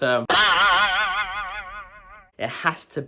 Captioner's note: loud boing